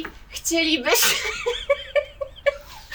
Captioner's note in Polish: atak śmiechu